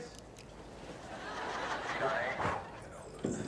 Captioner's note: laughter